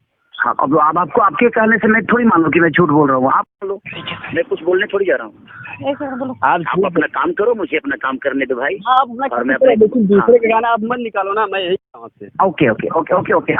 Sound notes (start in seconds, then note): 9.1 men murmuring